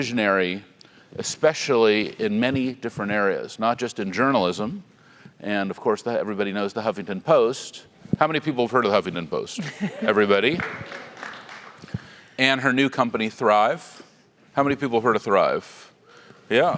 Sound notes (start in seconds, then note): 9.7 laugh